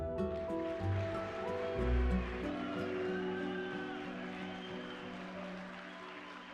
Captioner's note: audience applauding; crowd cheering